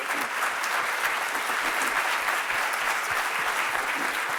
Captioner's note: applause